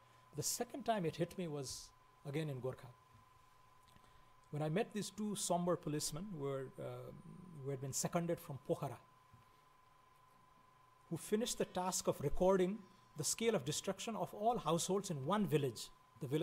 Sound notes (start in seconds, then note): 8.3 foreign language